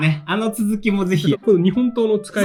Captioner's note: laughs